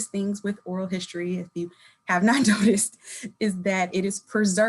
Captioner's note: chuckling